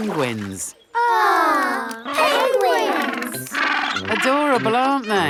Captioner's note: penguins chatter